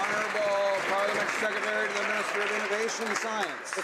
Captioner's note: some Applause